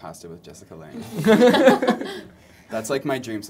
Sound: laughter

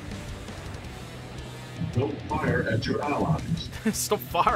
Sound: laughter

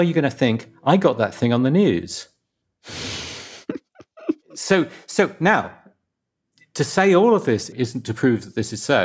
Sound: laughs

